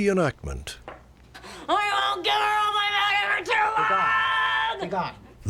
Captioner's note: screaming incoherantly